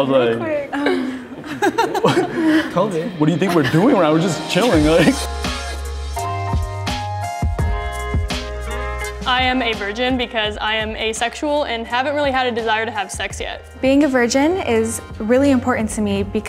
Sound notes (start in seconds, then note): 0.8 group laughing; 5.7 soft upbeat music begins